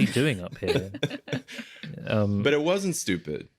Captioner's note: chuckling